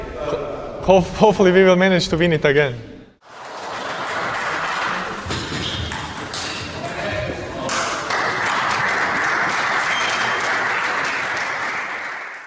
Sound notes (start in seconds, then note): 3.2 spectators applauding; 5.3 ball tapping; 7.6 spectators applauding